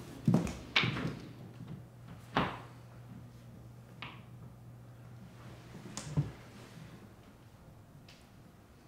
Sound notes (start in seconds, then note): 2.3 door closes